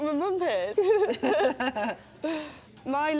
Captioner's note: laughter